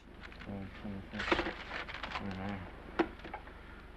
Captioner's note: page ripping